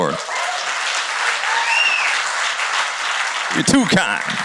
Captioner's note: cheers and applause